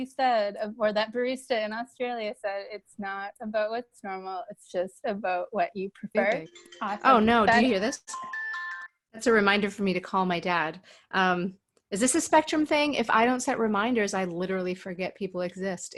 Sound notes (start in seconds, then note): 6.2 phone rings